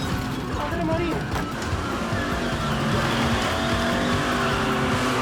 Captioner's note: lively rock music; man speaks foreign language